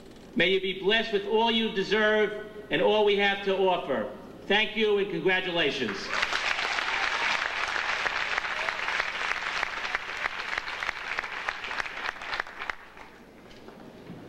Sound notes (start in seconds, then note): 5.9 audience applauding